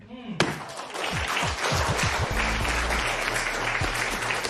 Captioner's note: applause